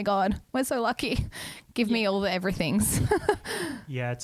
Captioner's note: laughs